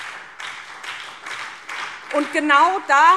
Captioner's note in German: Beifall SPD und DIE LINKE